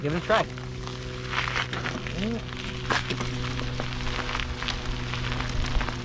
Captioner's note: helicopter whirring in distance